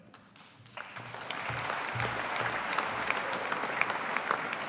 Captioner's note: audience applauding